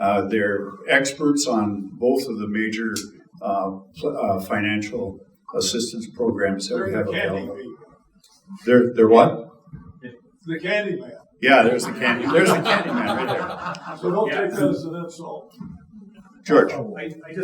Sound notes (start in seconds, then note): 7.6 speaking faintly; 11.4 audience laughing